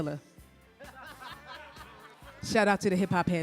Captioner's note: panelists laughing